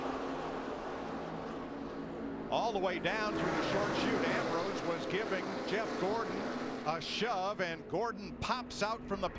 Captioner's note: engines roar